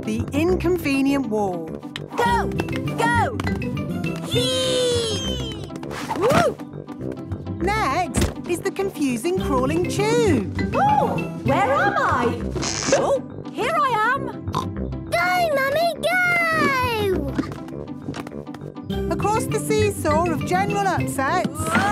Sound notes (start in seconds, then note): 8.1 thumps; 12.5 pops